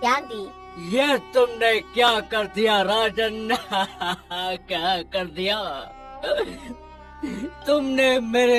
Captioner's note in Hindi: हंसी